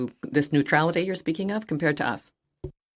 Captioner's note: speaking French